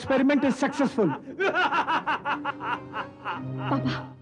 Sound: laughs

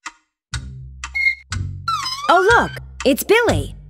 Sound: clock chiming

